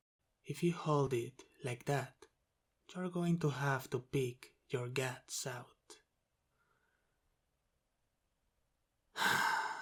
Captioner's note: sigh